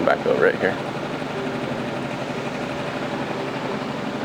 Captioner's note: engine rumbling